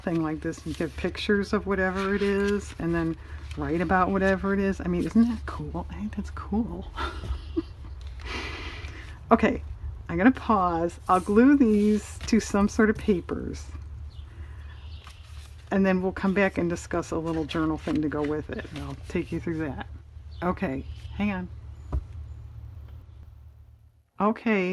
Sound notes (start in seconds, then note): 6.9 laughs